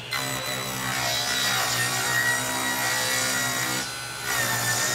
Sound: saw buzzing

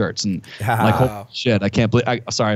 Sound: chuckle

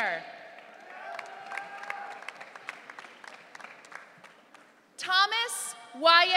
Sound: audience cheering

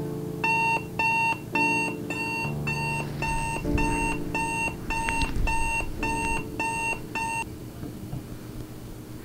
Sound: alarm sound

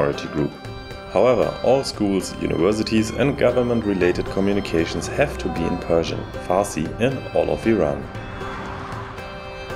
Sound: Farsi

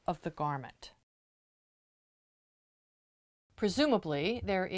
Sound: no Sound Present

